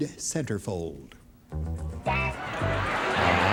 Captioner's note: laughter